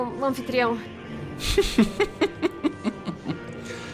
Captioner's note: chuckling